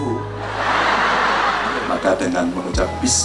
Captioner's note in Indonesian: tertawa